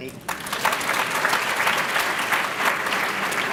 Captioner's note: applause